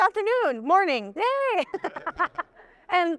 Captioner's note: laughs; audience laughing